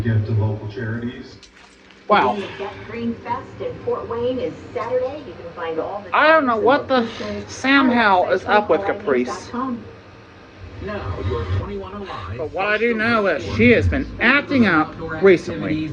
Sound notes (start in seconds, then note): 1.6 TV continues playing in background